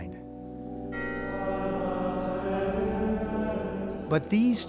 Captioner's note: bell rings